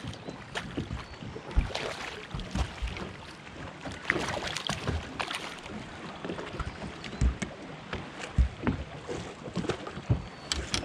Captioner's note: fish splashing; rod clattering